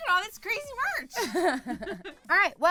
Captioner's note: laughter